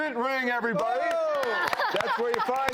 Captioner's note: clapping